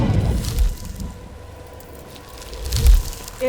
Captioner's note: ice crackles